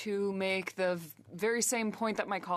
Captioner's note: speaking French